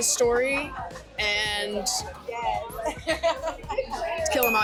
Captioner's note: laughs